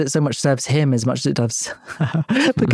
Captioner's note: chuckles